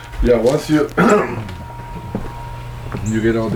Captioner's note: throat clearing